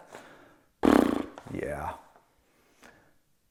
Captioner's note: rumbles lips